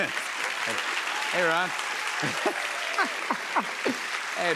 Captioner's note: laughs